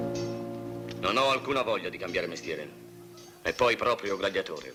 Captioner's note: swords clanging